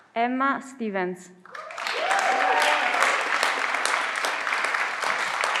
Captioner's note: everyone claps